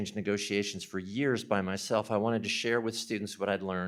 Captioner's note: none